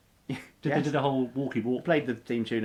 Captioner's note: laughs